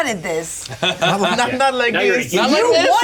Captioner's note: Jim laughs